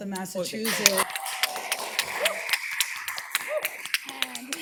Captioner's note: applause